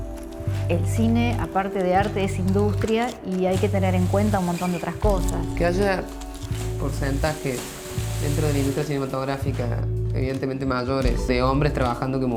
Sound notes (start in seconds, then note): 3.4 spashes; 3.5 splash